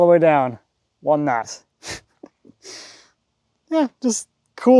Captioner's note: laughs